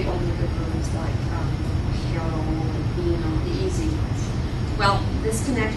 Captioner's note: non-english